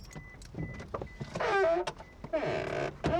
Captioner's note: door squeaks